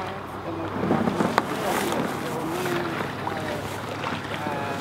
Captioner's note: boat rustling drowns out